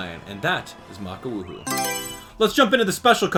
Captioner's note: Mario Selection Sound